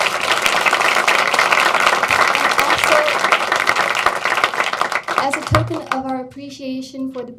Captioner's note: applause